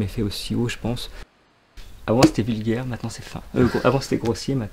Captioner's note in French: rire